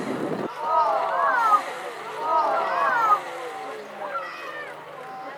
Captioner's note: passengers oohing